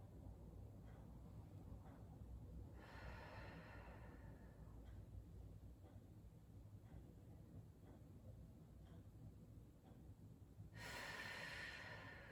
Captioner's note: breathing